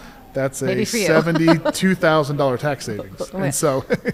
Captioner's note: laughs